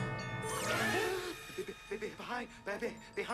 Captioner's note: gasps